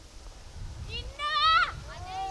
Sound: everyone screams

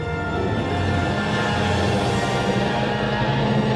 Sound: T-Rex roaring

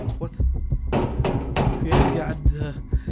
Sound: loud knocking

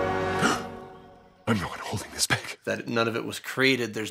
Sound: gasps

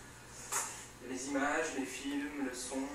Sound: French language

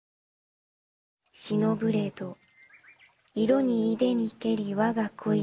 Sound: speaking in japanese

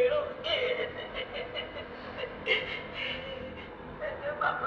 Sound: crying

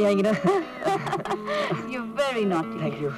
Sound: laughs

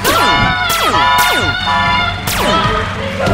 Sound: alarm buzzing; laser fires; screams; laser fires

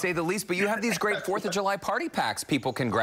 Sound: laughter

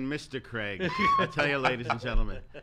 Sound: laughs

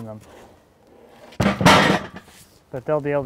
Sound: loud bang

